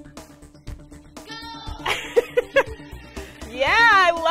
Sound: kids yell

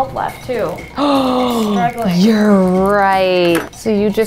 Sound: gasps

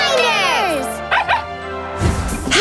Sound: barking

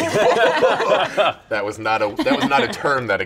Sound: group laughs

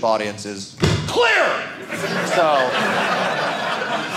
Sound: audience laughing

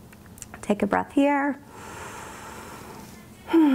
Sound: deep breath

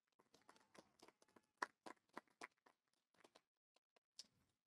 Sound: audience applauding

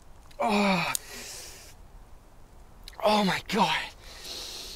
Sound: tourist groans

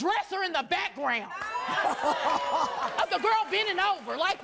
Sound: cheers

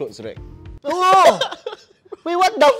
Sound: exclaims in shock

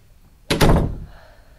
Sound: door slam

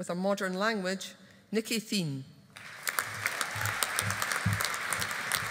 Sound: audience applauding

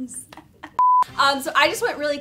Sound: beep

